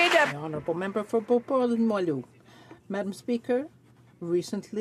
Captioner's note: some Applause